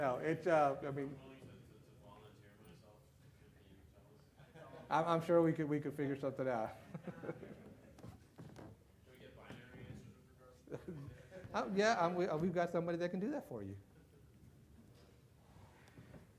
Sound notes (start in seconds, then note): 6.9 laughs